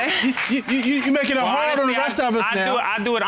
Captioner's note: audience laughing; stutters